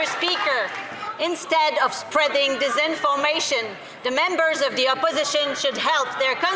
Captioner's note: some Applause